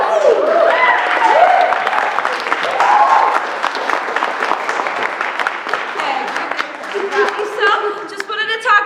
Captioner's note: cheering and applause